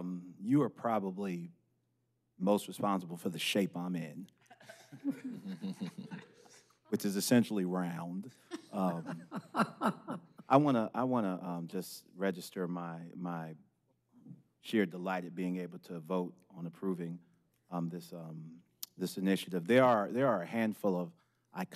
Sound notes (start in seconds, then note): 10.2 laughter